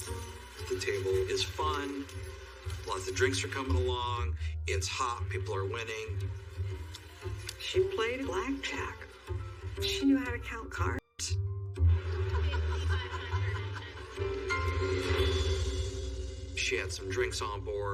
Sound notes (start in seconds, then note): 12.0 womanan laughing